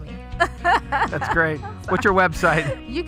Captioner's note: laughs